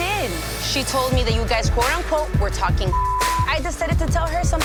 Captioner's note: beep